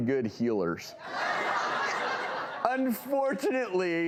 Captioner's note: laughing